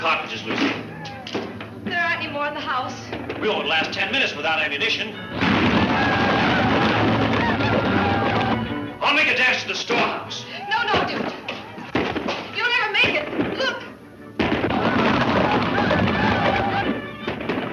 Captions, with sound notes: - Best go and collect another box of cottages Lucy. - There aren't any more in the house. - We won't last 10 minutes, without any addition. ( chanting) I'll make a dash to the store house. - No Dude, you'll never make it, look. ( upbeat music)